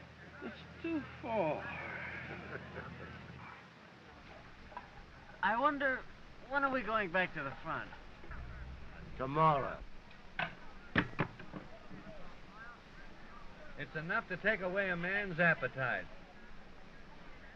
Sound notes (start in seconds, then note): 2.1 kat laughing